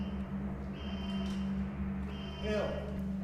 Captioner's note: dramatic music; alarm blaring